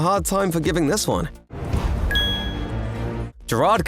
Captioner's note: ding!